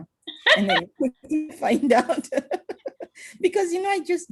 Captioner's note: laughing; laughs